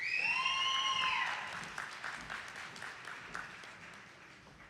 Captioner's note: audience applauding